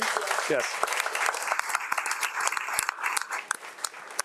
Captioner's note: crowd applauding